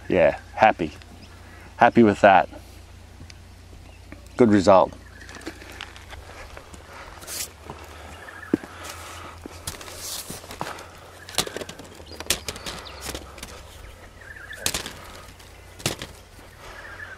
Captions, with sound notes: Yeah, happy, happy with that. Good result. (brushing) (thudding)